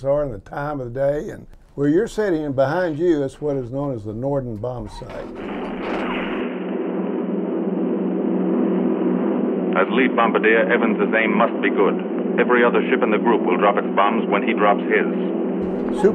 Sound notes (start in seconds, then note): 5.6 plane engine roaring